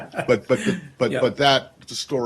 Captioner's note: laughter